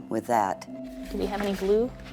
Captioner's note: laughs